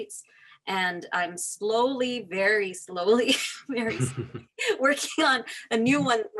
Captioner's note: laughing